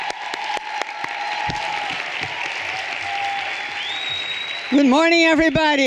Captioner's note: everyone cheering and applauding